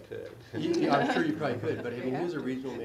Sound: laugh

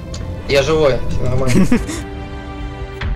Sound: laughs

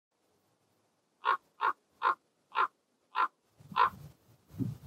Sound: bird calling

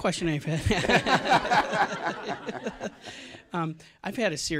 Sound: laughter

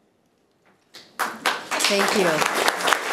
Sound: room applauds

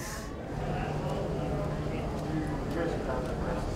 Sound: crowd chatter

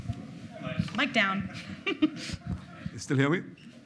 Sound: laughing

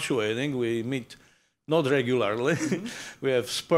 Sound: chuckles

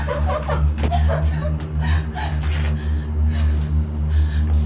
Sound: woman sobbing

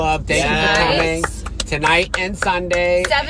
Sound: clapping

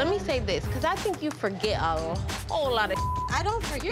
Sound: beep

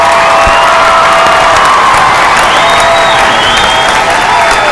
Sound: cheers and applause

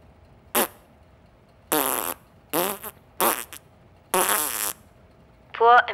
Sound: Felix Makes Fart Sound

